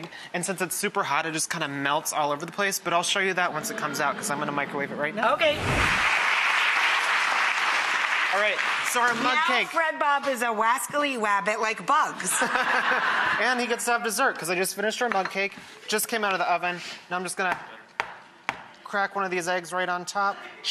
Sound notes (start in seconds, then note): 5.9 audience clapping; 12.2 audience laughter; 12.3 laughs